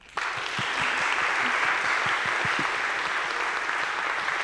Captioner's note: audience clapping